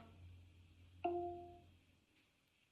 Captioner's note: device chimes